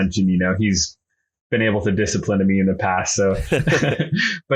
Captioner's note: laughs